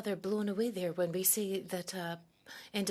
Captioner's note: speaking French